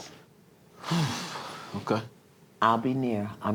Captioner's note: sighs